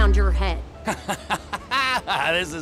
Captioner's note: laughs